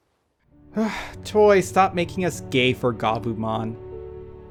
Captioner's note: sigh